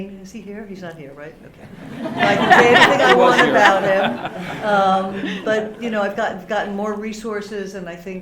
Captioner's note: laughter